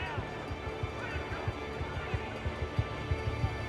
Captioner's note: commotion